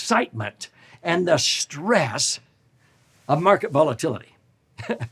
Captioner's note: chuckles